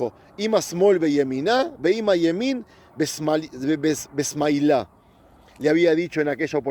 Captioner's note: Hebrew